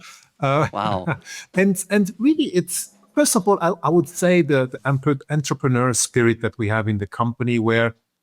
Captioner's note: laughs